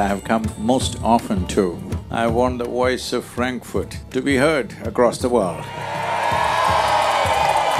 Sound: cheering/Applause

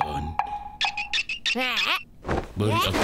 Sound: groaning

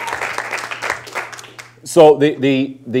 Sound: audience applause

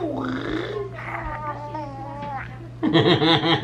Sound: making animal noises; gurgling; laughing

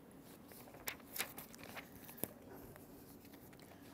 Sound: paper rustling

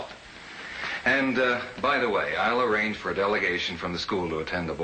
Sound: none

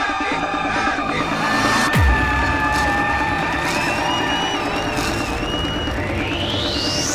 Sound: crowd Cheering

